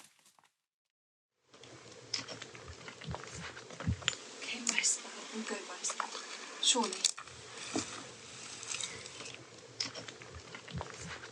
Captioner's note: muttering to herself